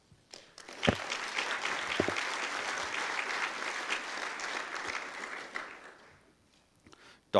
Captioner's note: audience applause